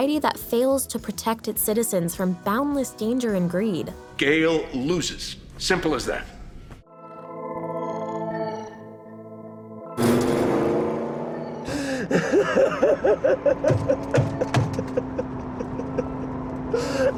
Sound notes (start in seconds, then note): 6.2 laughs; 6.2 screams